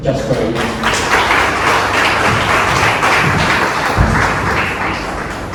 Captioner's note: clapping